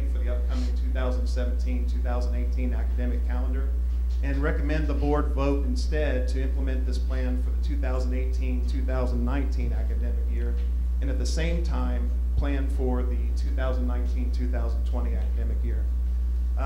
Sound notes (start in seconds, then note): none